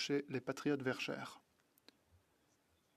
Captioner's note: speaking French